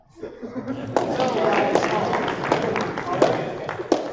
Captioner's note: applause